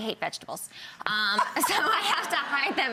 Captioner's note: laughing